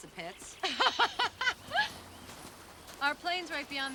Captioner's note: ladies laughing